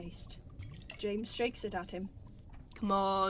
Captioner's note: liquid sloshes